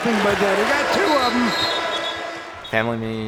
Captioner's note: crowd cheering